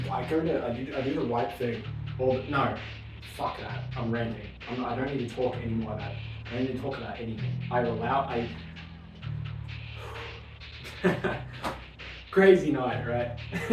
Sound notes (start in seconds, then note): 9.8 deep Breath; 13.5 stifled laugh and sniffing